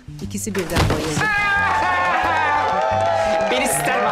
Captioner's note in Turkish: Devrilme sesi; Alkış efekt sesi